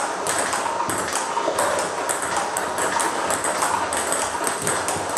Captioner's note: ball ping pong hitting continues